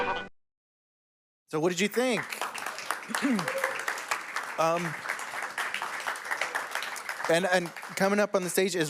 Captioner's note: applause